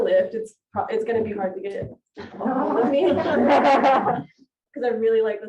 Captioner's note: all laughing